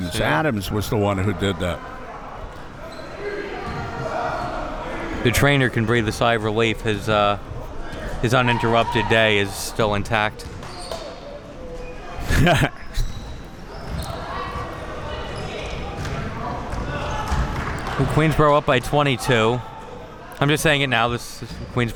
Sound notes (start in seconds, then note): 2.0 spectators shouting; 12.2 laughing; 15.9 spectators shouting